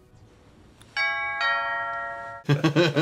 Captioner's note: ding dong